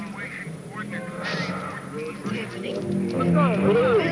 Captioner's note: sniffing